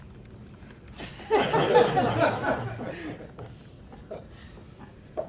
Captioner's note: laughter